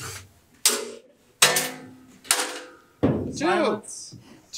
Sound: drilling; screw clinks as it falls

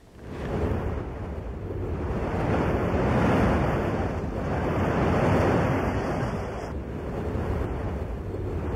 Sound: sound of waves crashing

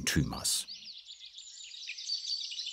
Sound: birds chirping

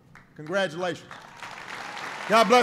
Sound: applause

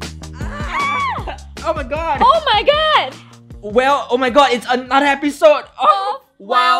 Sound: both screaming

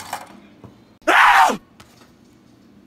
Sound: Call of Duty Zombie sound

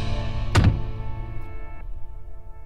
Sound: door closes

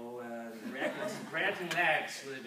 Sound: group laughs

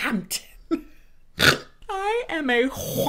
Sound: snorts

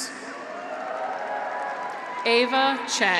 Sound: audience applauds; graduates cheer

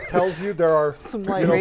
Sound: laughing

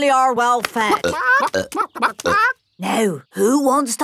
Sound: clucking

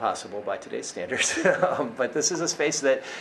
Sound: laughs

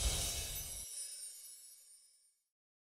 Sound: chimes

